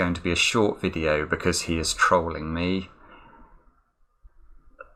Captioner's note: sighs